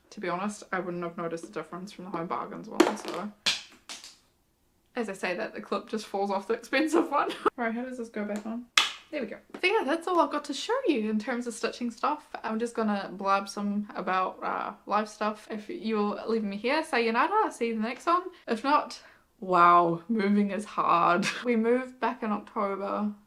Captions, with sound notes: To be honest, I wouldn't have noticed the difference from the Home Bargains one so. As I say that the clip just falls off the expensive one *LAUGHS* Alright, how does this go back on? *CLIP SNAPS* There we go. So yeah, that's all I've got to show you in terms of stitching stuff. I'm just gonna blab some about, uh, life stuff. If you're leaving me here, sayonara, I'll see you the next one. If not, wow, moving is hard. We moved back in October.